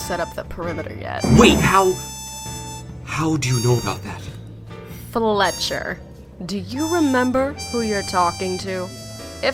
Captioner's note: quieter